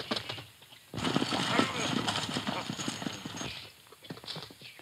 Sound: men muttering

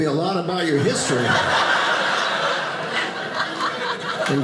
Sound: audience laughing

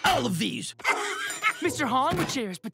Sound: laughing

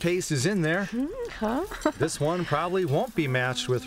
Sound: laughter

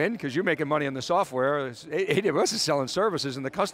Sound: laughs

